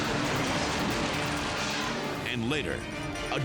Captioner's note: scene swooshing